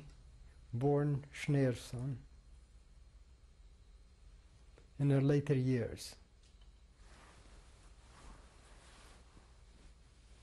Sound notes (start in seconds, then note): 2.6 pauses for 3 seconds